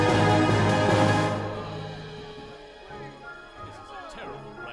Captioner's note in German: meckernde Fahrgäste